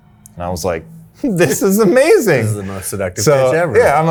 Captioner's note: chuckles